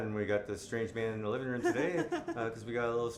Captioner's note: laughs